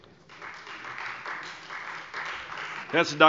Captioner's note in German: Beifall Freie Demokraten